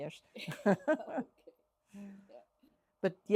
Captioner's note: laughs